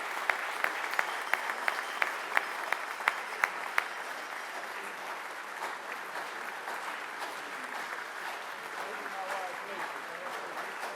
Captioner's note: applause